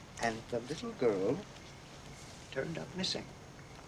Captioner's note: none